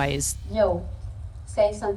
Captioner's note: French